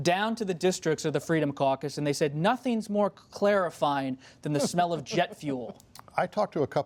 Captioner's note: laughter